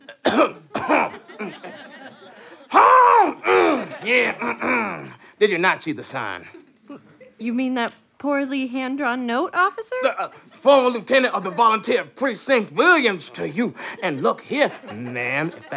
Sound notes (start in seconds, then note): 0.0 coughs more forcefully; 4.4 clears throat